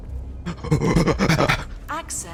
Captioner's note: scary grunting noises